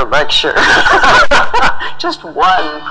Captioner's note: laughing